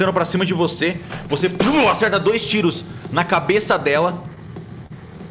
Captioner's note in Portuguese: Pow